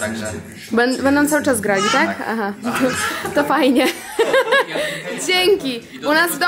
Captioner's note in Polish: śmiech